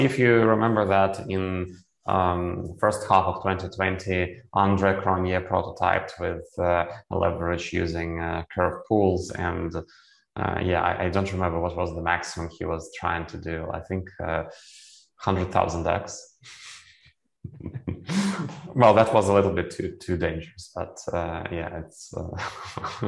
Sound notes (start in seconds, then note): 16.3 laughs